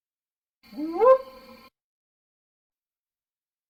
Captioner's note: howl